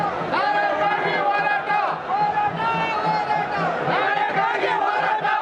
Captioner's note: ambient crowd noise; shouting slogans